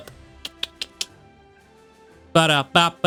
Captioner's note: clicking